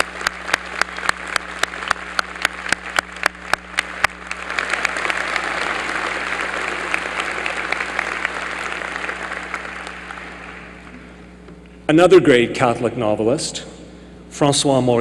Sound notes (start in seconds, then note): 3.3 applause